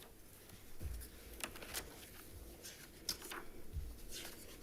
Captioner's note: papers shuffling